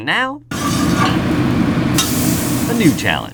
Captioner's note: food sizzles